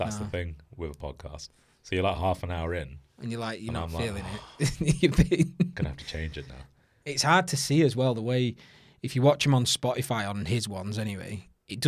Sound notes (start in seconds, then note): 3.8 laughs; 4.1 exhales